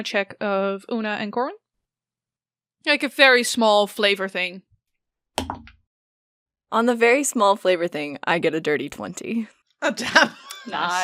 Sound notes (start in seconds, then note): 5.1 dice thunks; 10.0 laughs